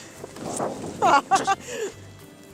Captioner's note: laughs